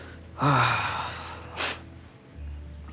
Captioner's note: sighs; solemn piano music